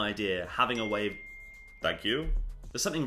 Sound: alert chimes

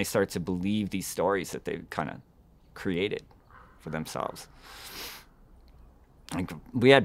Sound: snorts

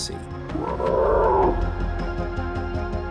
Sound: cries out

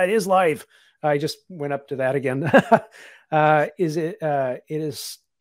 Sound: laughs

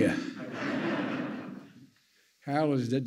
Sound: laughter

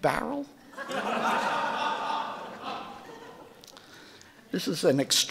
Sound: audience laughing

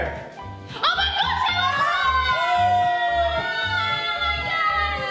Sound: cheering

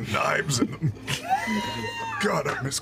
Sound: the cast laughs

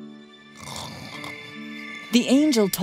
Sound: snoring

